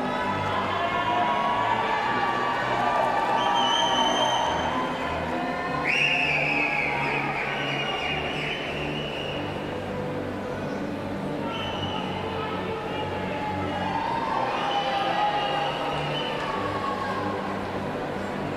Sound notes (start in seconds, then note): 6.1 cheers and applause